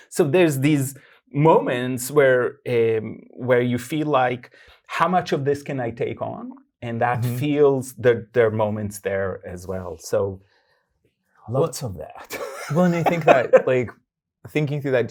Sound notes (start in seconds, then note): 12.3 guy laughing